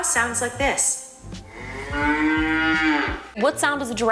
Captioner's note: cow moos